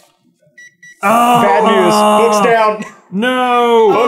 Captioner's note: gentle beeping; grooooooooan